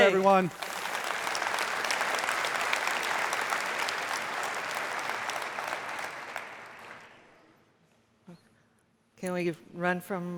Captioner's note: applause